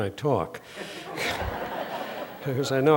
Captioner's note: laughter